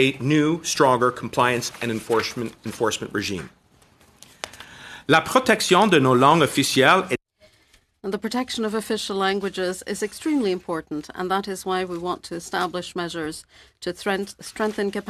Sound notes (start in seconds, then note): 10.8 speaking French